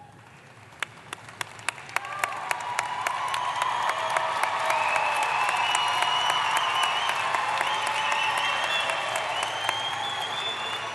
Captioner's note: applause